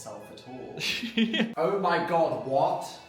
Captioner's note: Phil laughs